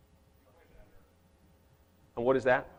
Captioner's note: speaks off microphone